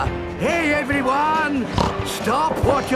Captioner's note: snorts